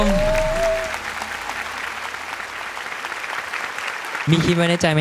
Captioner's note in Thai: ปรบมือ